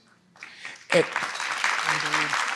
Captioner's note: audience applauds